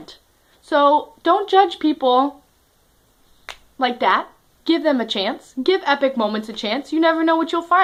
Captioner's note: snaps